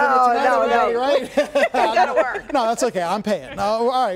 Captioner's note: laughter